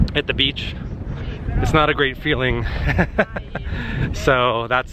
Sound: laughter

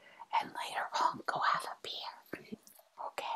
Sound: whispers

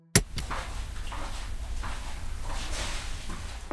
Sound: footsteps

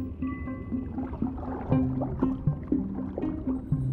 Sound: scuba equipment bubbles

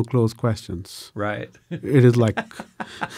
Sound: laughs

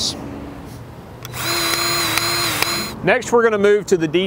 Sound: grease gun revving

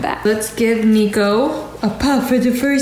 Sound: none

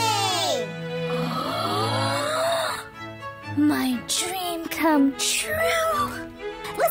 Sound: gasps

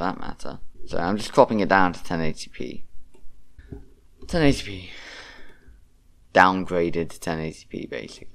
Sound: sigh

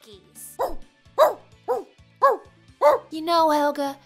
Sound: barks

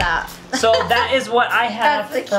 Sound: laughs

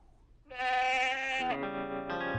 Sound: bleating

